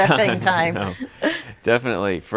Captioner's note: both laughing